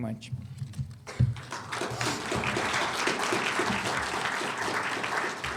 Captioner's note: audience applauds